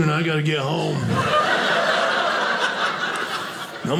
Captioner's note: audience laughing